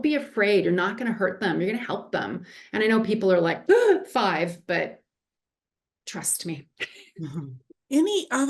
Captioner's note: gasp